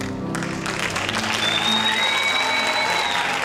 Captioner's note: cheering